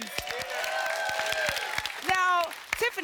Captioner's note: applause